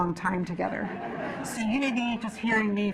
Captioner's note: laughing